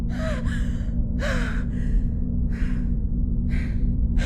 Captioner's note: panting